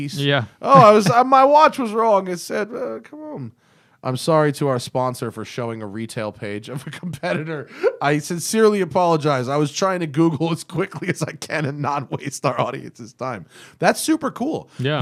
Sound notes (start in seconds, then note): 0.7 laughter; 6.8 laughter